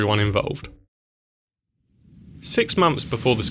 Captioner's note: sounds of rushing wind